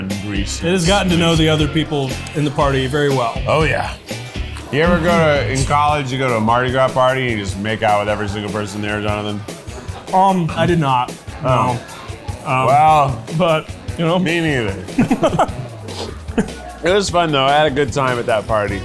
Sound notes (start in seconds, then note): 14.9 laughs